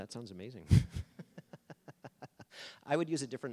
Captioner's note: laughing